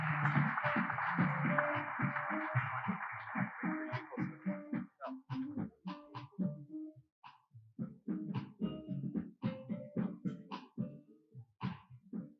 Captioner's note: applause